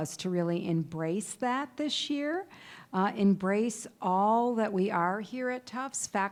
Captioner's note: none